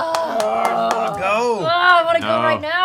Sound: groaning

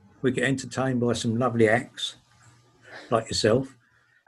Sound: laughs

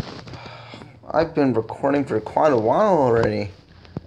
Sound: I sigh

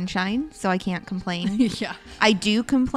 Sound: laughing

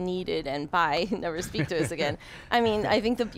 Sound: chuckles

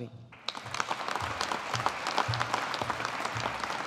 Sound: audience applauding

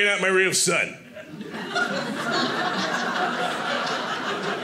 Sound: audience laughing

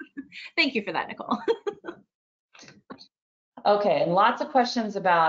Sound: laughs

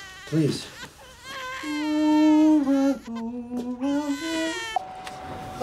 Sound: humming

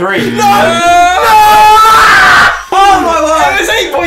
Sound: screams

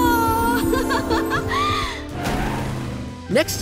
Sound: laughing

